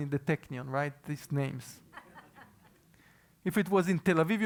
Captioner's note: laugh